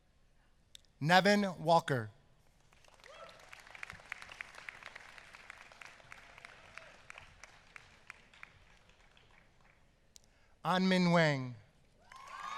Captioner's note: applause